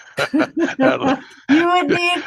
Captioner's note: laughing